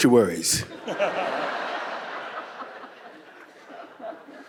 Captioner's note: audience laughing